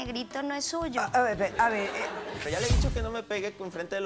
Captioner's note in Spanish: Risas